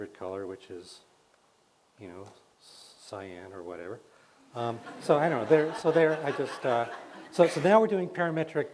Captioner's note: laughs